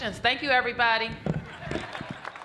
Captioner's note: applause